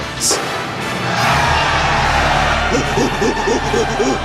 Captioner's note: cheering; hooting